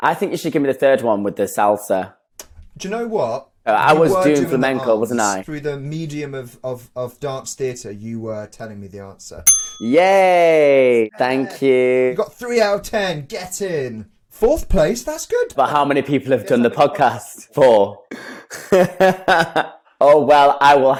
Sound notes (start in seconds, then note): 9.4 bell dings; 18.1 laughs